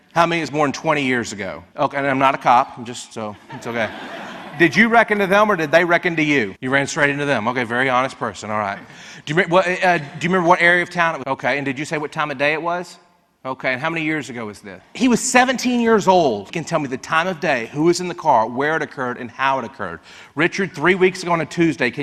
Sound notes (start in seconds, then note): 3.3 audience laughs